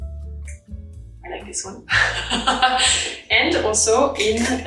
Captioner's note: laughs